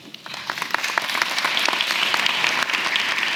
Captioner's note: applause